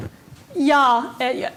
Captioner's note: indistinct conversation